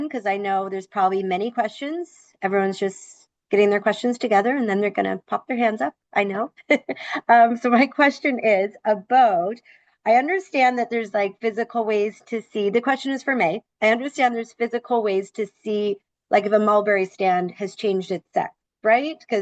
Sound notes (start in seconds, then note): 6.6 laughs